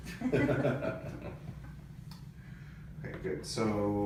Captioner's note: both laugh